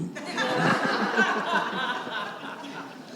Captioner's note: laughter